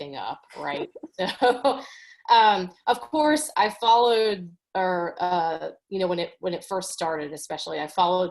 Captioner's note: chuckles